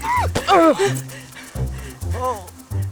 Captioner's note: groans